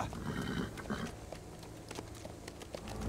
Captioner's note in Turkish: At kişneme sesi